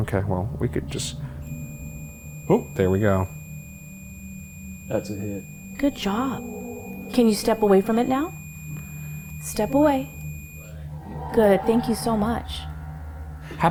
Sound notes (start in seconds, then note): 2.8 device beeping